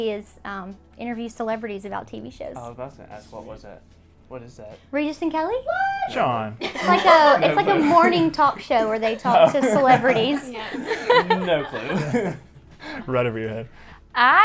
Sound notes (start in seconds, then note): 6.6 all laugh; 11.0 laughs